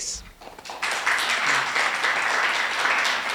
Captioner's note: applause